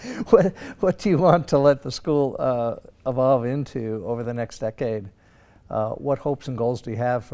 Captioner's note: laugh